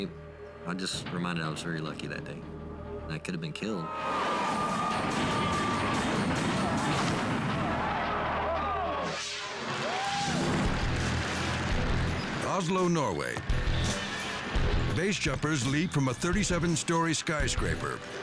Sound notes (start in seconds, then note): 4.7 truck thumping; 6.8 crowd gasping; 8.9 screen whooshing